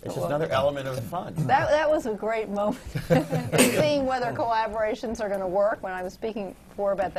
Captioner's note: laughs